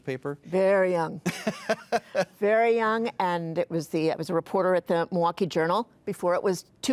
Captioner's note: laughing